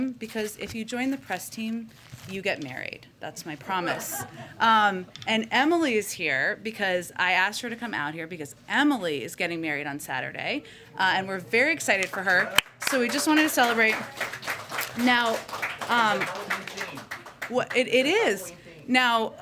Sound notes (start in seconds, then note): 3.8 laughter; 13.5 applause